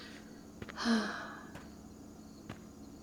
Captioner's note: sighs